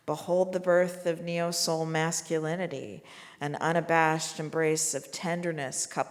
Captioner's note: none